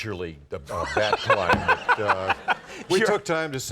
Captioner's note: Conan laughing